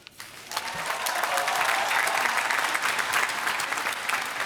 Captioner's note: applause